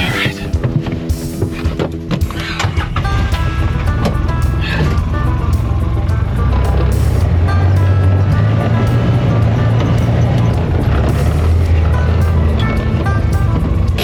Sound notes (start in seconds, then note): 3.6 vehicle engine chugging; 6.9 bright music continues